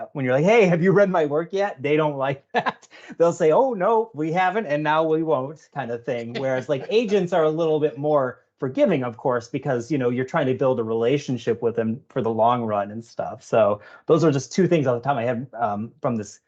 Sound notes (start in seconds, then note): 2.3 laughing; 6.2 laughing